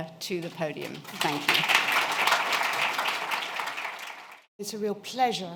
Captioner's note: applause